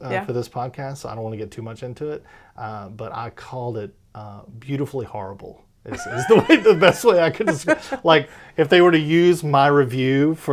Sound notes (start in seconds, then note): 5.9 laughs